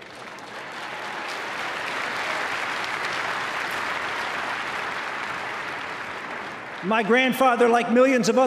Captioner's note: applause